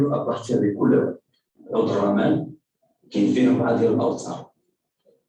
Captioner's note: non-english speech